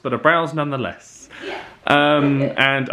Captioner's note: laughs